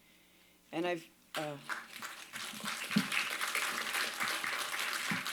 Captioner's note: applause